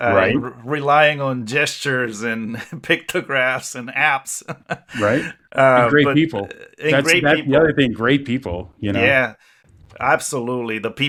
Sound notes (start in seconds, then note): 4.4 laughs